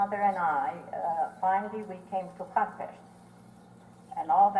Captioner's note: non-english